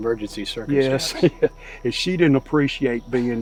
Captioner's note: chuckling